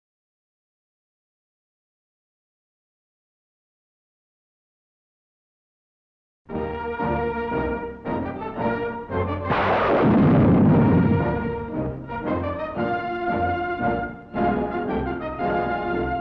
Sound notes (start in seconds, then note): 6.2 exciting music; 9.4 gunshots